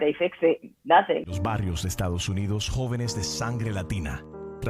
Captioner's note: speaking spanish